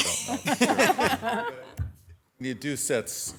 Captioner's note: people laugh